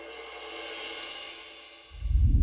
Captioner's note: air whooshing